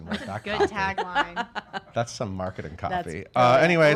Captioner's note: laughing